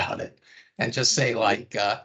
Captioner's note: chuckling